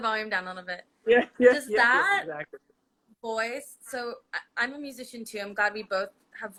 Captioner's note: laughs